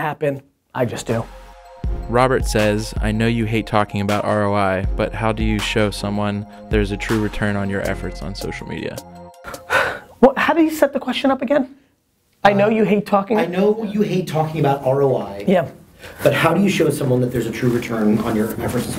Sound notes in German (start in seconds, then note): 2.2 Voice-over; 9.5 Seufzt